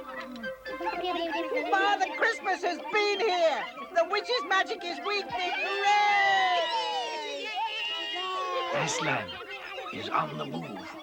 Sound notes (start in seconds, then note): 5.2 all cheering